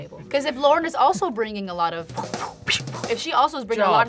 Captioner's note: blows air